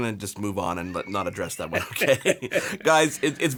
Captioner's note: laughing